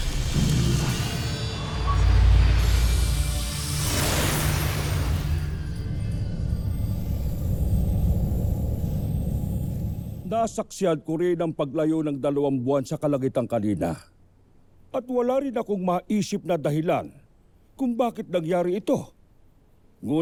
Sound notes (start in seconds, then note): 7.4 wind howling